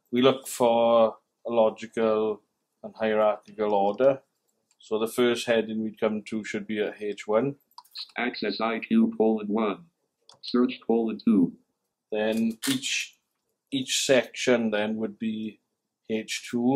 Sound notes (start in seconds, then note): 7.8 computerised voice